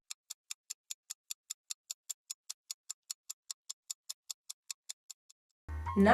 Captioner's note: clock ticking